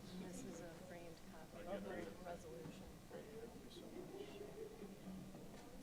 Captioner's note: people chattering